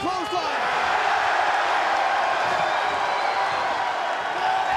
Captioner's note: crowd cheers